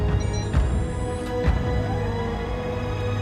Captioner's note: beeping